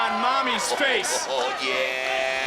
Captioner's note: Booker laughs